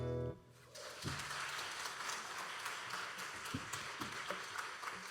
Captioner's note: audience applauding